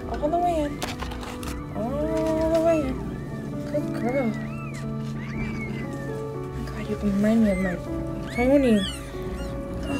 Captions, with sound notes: All the way in. All the way in. [Meow] Good girl. [Kitten meows] Oh my God you remind me of my Melanie.